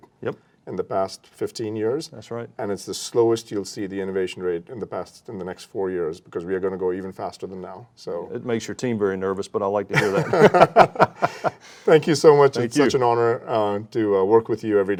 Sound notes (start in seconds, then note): 10.0 laughing